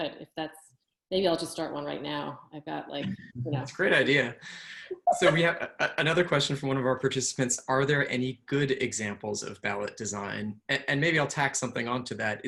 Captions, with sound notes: But if that’s — maybe I’ll just start one right now. I’ve got, like, you know, 80 something days ... It's a great idea. (Laughs.) So we have another question from one of our participants. Are there any good examples of ballot design? And maybe I’ll tack something on to that.